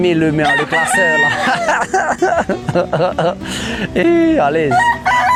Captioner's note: chuckles